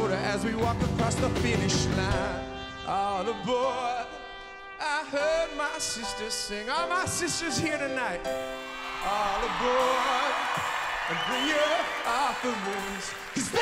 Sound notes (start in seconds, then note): 8.5 cheers